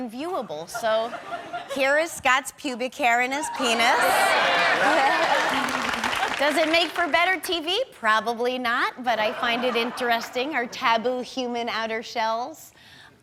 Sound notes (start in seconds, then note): 3.6 audience clapping